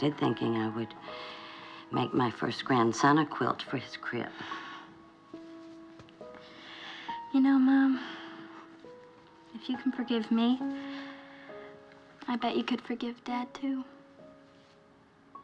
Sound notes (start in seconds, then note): none